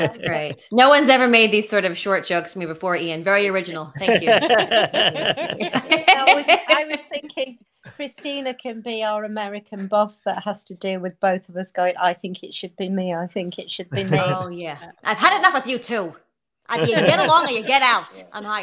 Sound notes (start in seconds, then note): 3.9 group laughing; 6.1 Christina laughing